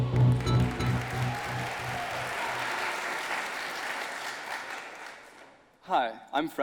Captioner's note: audience applauding